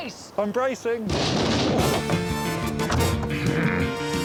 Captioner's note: boat thumps; theme music playing